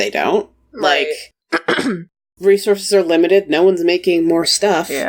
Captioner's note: coughs